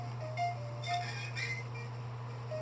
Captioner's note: creaks